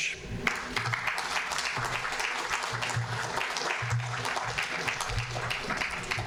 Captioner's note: audience applauding